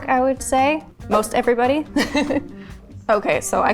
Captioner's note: laughs